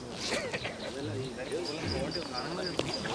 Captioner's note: indistinct chatter